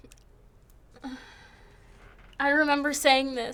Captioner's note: groaning softly